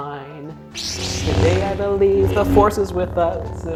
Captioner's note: lightsaber ignites and whirs